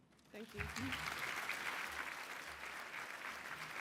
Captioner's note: applause